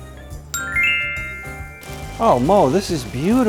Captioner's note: gift twinkling